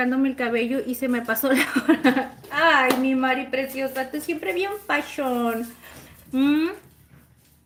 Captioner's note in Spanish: risas